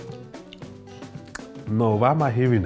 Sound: makes chewing sounds

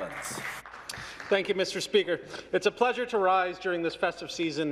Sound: some Applause

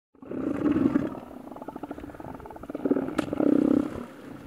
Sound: seals grunting

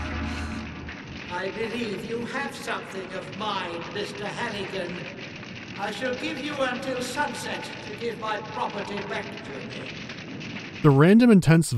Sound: crackling of fire; echoing

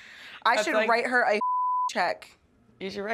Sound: beeping

